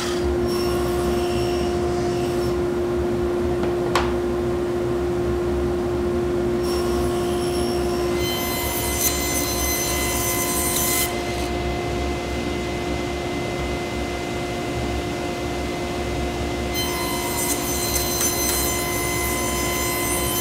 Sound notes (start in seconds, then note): 0.6 machine whirring; 8.0 saw whirring